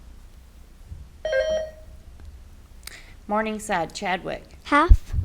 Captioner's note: buzzer beeps